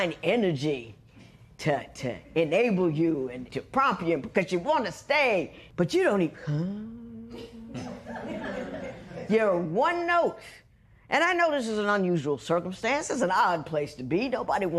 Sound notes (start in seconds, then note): 6.4 humming softly; 7.7 laughter